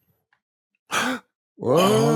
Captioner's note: gasping